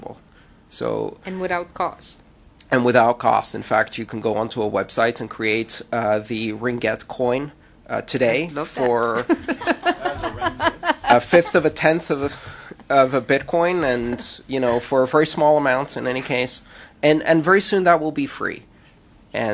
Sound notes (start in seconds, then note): 8.8 laughter